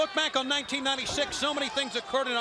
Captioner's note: crowd chatter